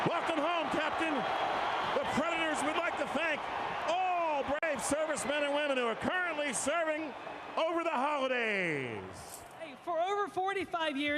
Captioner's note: applause